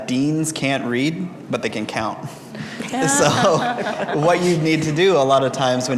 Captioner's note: laughter